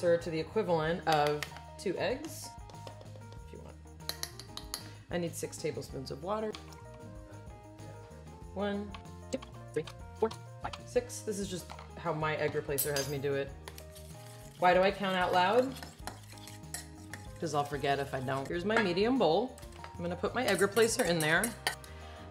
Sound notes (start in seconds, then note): 2.5 upbeat music; 4.0 spoon tapping bowl